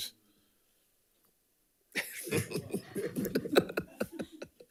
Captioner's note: audience laughing